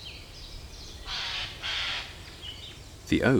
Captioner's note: bird squawks